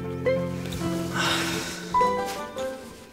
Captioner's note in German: Er seufzt